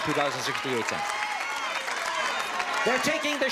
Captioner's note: audience shouting